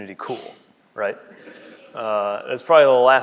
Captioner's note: laughing